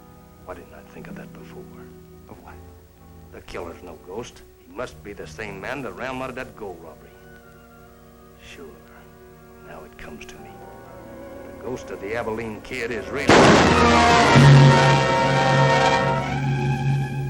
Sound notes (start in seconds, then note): 13.2 gun shot